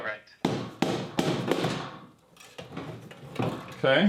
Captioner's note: hammer thumping